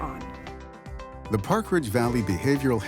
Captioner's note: voiceover